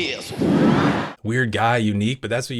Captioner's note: exhale